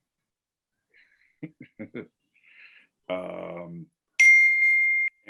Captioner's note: dinging